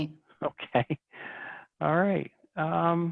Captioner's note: chuckles